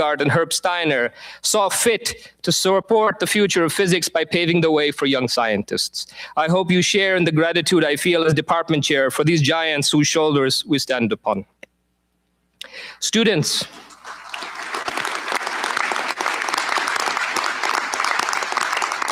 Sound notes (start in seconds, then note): 13.7 applause